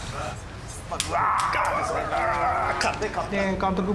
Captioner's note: snarling